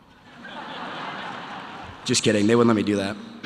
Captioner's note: audience laughter